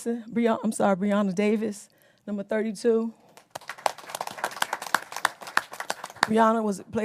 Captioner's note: applause